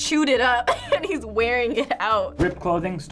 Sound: giggling

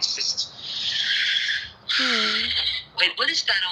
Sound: sighs

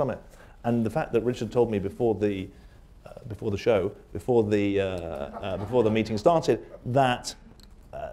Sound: laughter

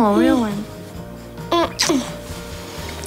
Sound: kissing sounds

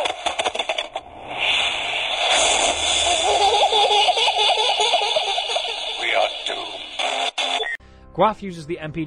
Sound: Gas hisses and Samantha laughs; Static

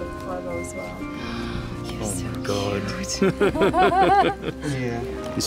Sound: laughter

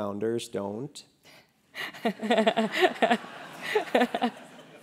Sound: laugh

